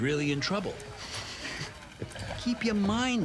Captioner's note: partner laughs